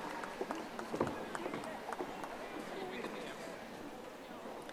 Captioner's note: audience applauding